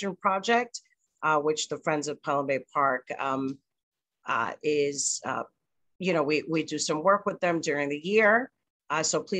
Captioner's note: stutters